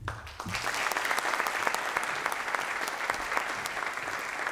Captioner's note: applause